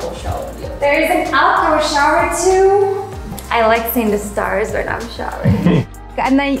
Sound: laughter

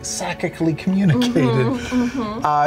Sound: laughing

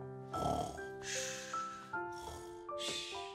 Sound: snoring

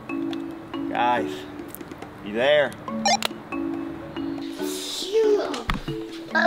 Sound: radio beeps

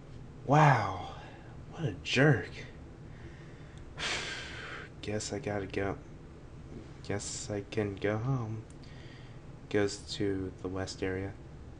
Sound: sigh

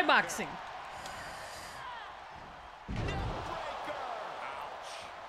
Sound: applause

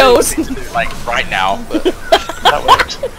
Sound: haha; laughing

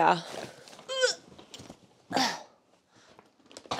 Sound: grunts

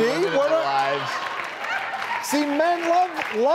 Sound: applause; laughing

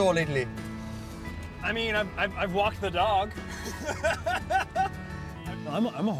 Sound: laughs

